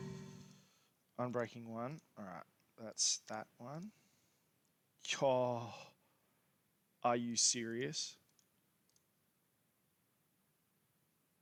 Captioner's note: gasp